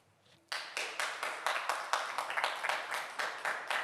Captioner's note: audience Applauding